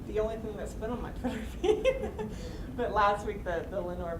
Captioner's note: laughing